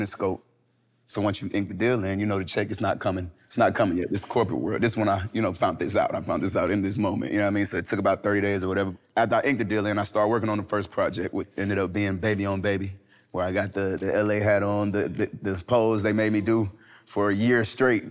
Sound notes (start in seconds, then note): none